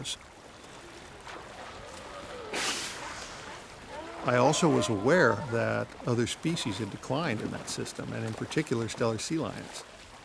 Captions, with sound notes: (grunting) I also was aware that other species had declined in that system and in particular Stellar sea lions.